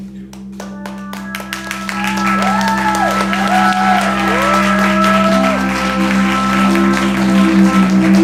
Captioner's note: applause